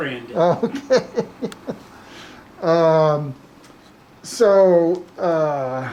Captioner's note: laughs